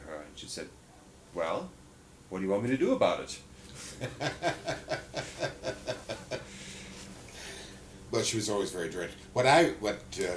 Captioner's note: laughter